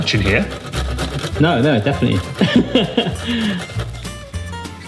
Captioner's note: laughs